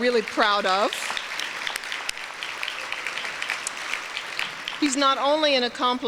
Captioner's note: applause